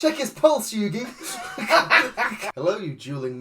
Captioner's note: laughs; cackles